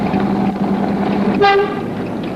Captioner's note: horn